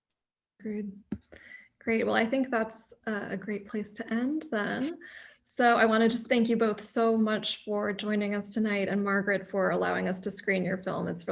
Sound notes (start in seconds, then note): none